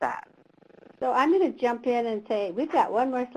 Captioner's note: voiceover